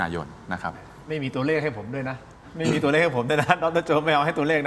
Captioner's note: clears throat